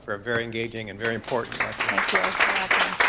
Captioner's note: audience clapping